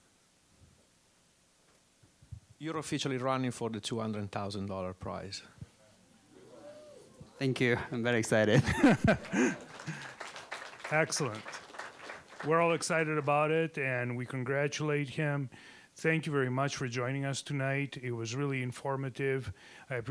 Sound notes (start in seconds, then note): 6.4 scattered cheering; 8.5 laughing; 8.7 applause